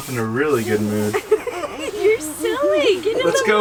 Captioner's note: laugh